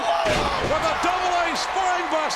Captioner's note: body thuds